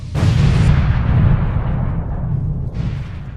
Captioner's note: explosion